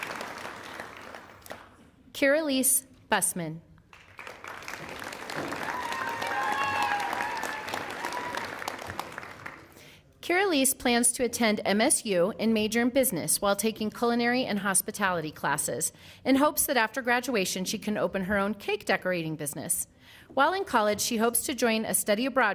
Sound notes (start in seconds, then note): 0.4 applause; 10.3 cheering and applause